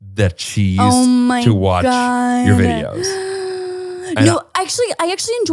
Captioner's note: gasps